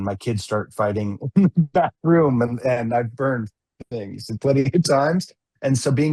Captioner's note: laughs